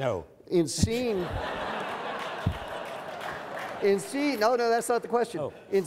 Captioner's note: audience laughs